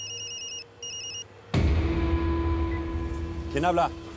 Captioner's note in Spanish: Suena celular